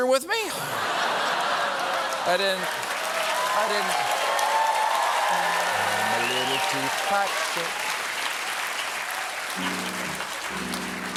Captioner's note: cheers and applause; piano riff